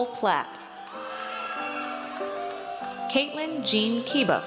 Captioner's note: audience cheers